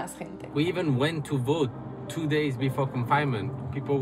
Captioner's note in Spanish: hablando en inglés